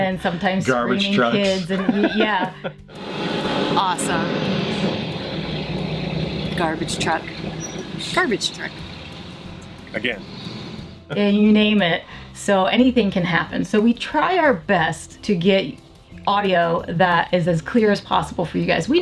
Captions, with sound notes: and sometimes screaming kids. - Garbage trucks. - And yeah. (garbage truck revving) Awesome. Garbage truck, garbage truck. - Again. - And you name it, so anything can happen. So we try out best to get audio that is as clear as possible for you guys.